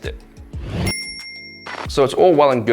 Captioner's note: bell chime